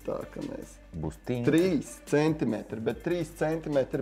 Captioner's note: crack